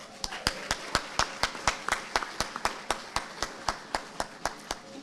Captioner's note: audience applauding